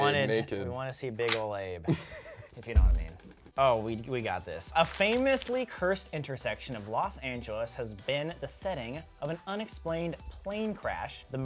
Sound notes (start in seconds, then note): 1.8 laughs